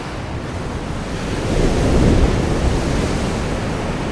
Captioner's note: waves crashing